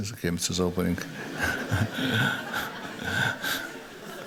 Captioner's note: laughter